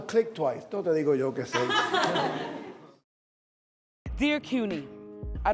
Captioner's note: speaks in foreign language